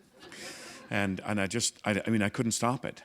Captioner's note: laughter